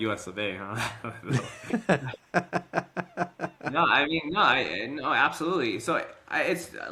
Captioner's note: both Laughing